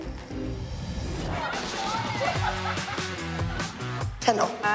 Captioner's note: laughter and chatter